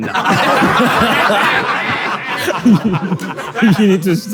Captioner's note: people in room laughing